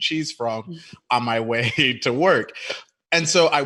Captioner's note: chuckles